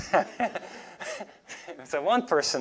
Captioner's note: laughs